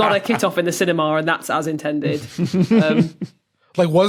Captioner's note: snickers